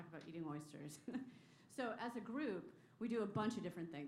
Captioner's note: laughter